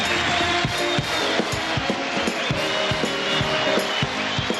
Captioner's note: cheers and applause; upbeat music